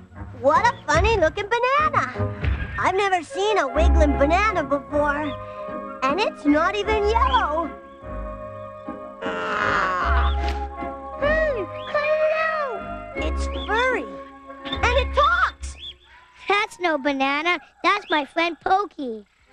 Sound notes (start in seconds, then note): 9.2 grunting